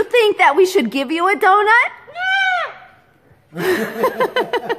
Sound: Jersey exclaims

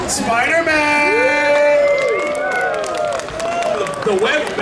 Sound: audience cheering

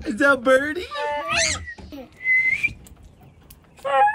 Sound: whistling

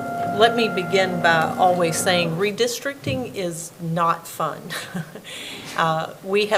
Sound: laughs

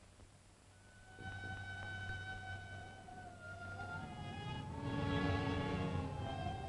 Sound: mysterious music; wind howling

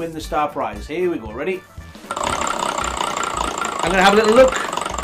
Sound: wheel spinning

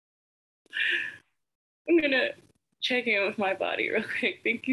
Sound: laughs

